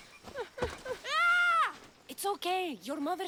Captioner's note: scream